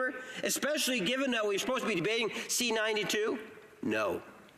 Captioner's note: none